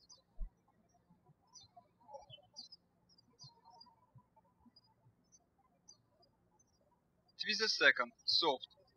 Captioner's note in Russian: птички щебечут